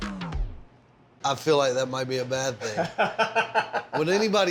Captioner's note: laughs